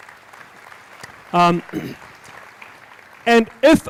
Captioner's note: applauding